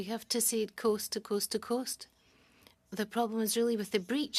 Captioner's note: speaking French